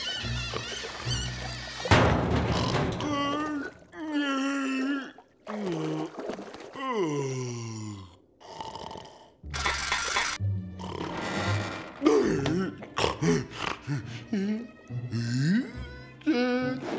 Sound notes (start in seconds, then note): 1.8 thudding; 2.9 yawning; 8.5 snoring; 9.4 clanking; 10.7 snoring; 12.0 grumbling